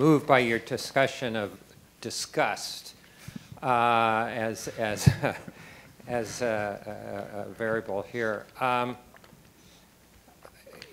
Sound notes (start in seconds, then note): 4.9 laughs